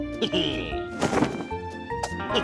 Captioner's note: laughs